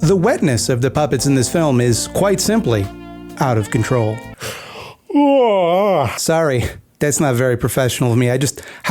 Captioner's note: yawns